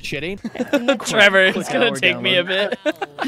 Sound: laughing; laughter

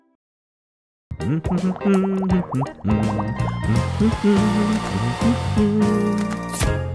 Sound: humming

